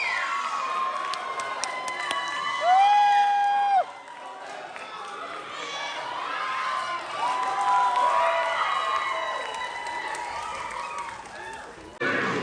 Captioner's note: applause